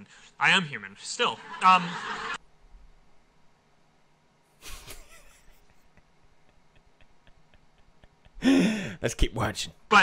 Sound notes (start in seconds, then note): 1.2 audience laughing; 4.6 chuckles; 8.3 inhale